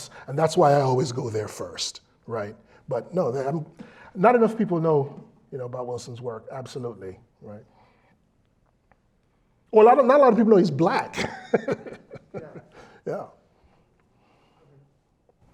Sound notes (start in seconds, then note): 10.7 laugh